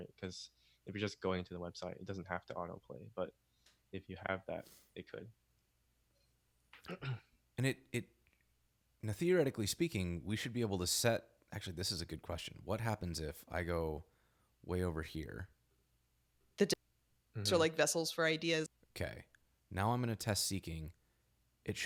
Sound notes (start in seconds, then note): 17.4 podcast snippets play